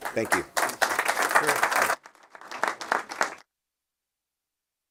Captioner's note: applause